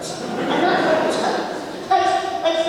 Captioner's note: audience laughs